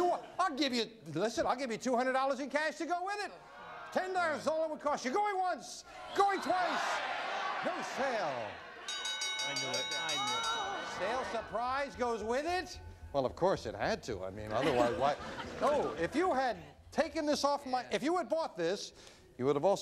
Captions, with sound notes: Listen, I'll give you $200 in cash to go with it. $10 is all it costs you. Going once, going twice-- [audience cheering] No sale! [bell ringing] I knew it! Sale surprise goes with it! Hold on, of course it had to, I mean come on. No, if you had taken this off my-- if you had bought this,